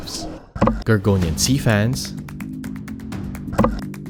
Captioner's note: image clunks; upbeat music continues; image clunks